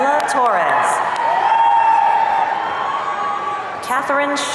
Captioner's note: audience cheering